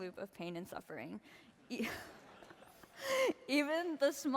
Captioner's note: laughter